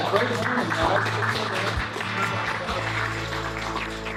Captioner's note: applause